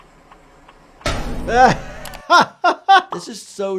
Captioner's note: turning signal clicks; metal clangs; doctor laughs